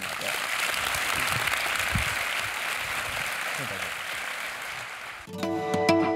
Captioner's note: applause